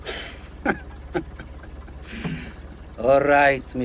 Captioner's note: laughing